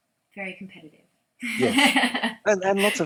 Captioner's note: laughs